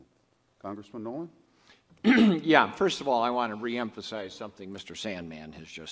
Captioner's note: clears throat